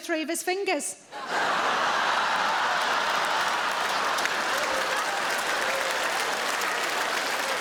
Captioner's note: audience laughing; audience applauding